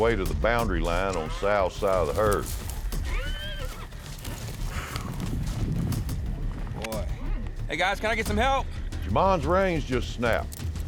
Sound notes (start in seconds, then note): 2.9 horse whinnies